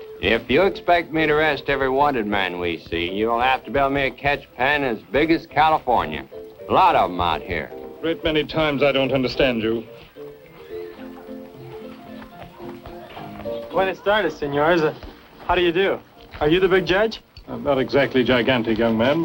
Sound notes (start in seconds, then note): 14.2 speaking spanish